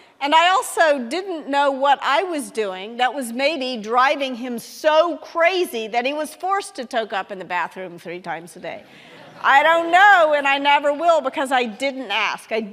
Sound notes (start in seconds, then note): 9.0 audience laughing